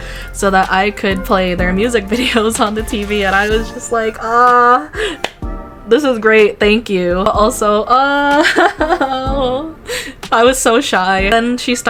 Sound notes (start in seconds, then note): 8.4 embarrassed laugh